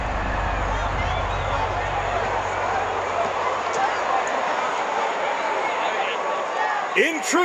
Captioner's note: crowd excited murmuring